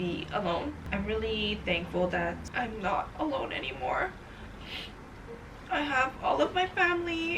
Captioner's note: sniffs